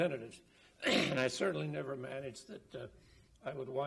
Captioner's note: coughs